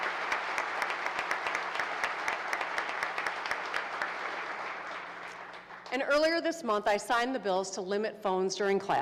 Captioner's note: applause